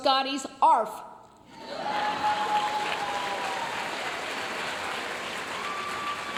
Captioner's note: audience cheering and applauding